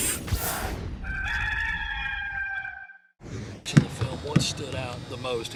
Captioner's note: swooshing; rooster crowing